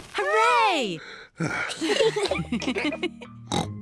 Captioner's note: sighs; all laugh; oinks